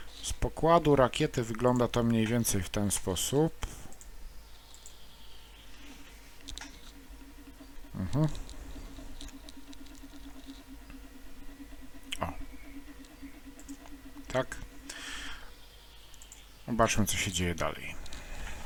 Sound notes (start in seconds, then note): 4.3 hums and snoring sounds